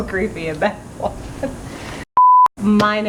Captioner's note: laughing; beep